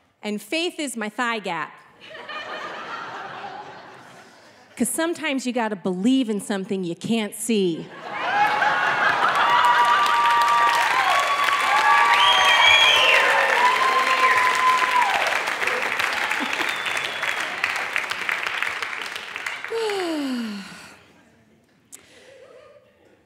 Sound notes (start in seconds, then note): 2.0 audience laughing; 7.9 audience laughing; 13.2 audience clapping; 19.7 sighing